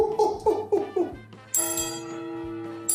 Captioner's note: clang